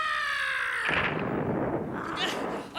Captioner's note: Griffin screaming